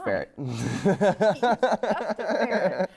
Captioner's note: laughs